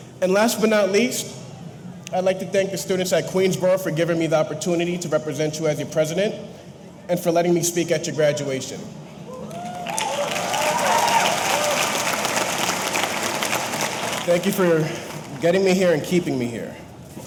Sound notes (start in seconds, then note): 9.3 audience cheering; 9.5 audience applauding